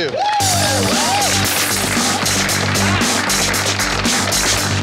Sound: contestants cheering

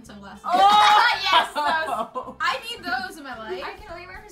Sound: bursts of laughter

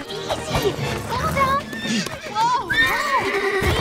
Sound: neighing

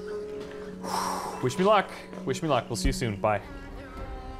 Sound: exhales

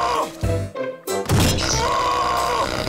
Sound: screaming; screaming

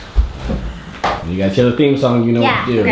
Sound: voiceover

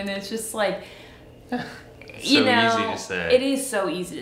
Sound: chuckles

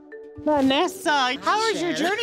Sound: laughs

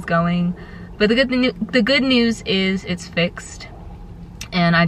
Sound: stuttering

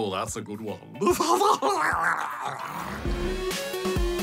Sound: guffaws

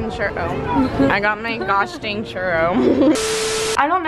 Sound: laughs

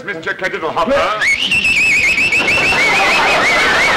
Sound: whistling; audience laughter

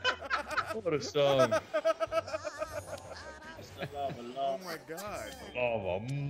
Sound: laugh

